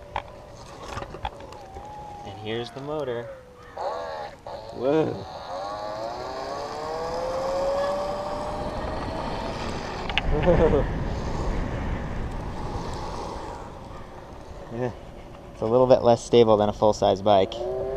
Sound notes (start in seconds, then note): 0.0 electric motor sound; 2.7 electric coasting sound